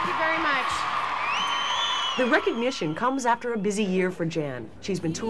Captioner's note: cheering and applause